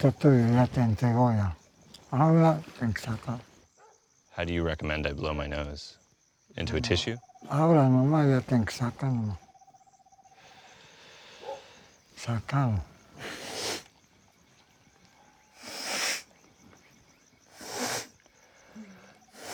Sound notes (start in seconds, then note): 7.4 speaking Spanish; 13.3 blows nose